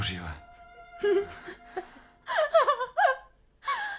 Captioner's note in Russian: нервный смех